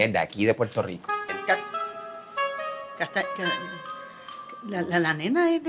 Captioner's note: stutters